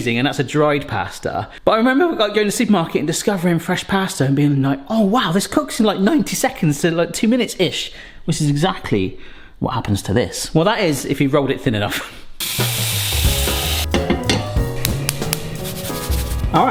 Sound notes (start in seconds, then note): 12.4 water pouring; 13.9 pot knocking stove; 14.5 salt shaking; 14.7 gas stove sparking